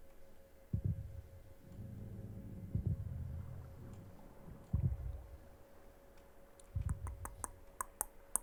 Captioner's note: ominous sound of Warden in the background